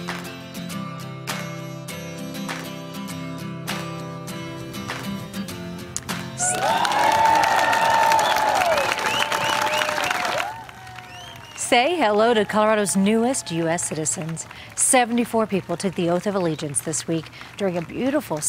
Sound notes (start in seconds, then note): 8.4 cheers and applause